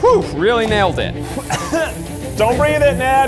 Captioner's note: coughing